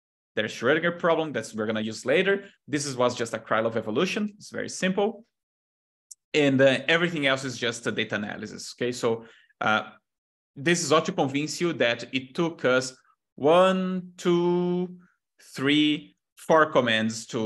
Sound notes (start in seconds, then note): none